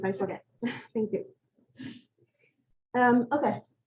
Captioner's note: chuckles